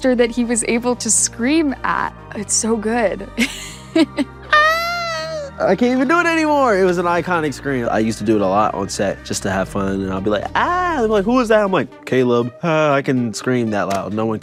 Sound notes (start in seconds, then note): 3.4 laughing